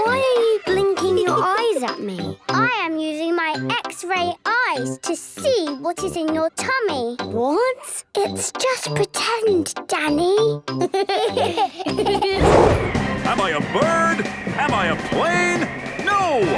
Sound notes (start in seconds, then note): 8.8 whispers; 10.9 giggles